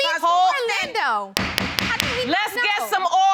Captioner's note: gavel banging